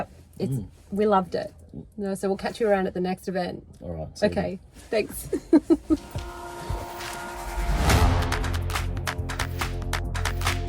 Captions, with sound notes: - And yeah, we loved it. And I said, we'll catch you around at the next event. - All right, see you. - Okay. Thanks. (laughs) (upbeat music)